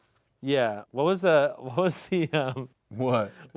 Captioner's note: laughing